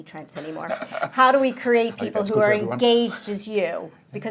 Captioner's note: laughing